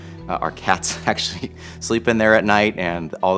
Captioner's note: chuckling